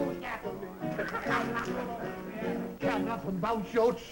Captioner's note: laughs